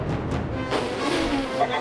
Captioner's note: spit sound